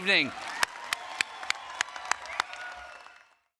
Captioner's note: applause, cheering